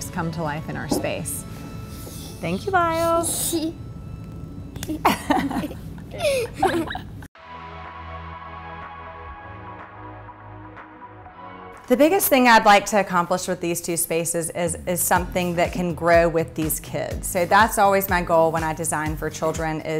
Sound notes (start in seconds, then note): 4.8 both laugh; 7.4 upbeat music